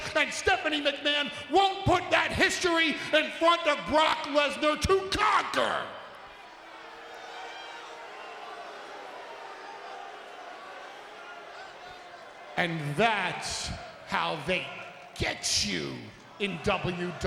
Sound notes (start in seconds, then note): 6.6 crowd murmuring